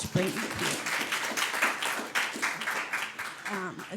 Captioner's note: audience applauds